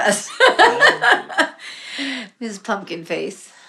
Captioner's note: laughing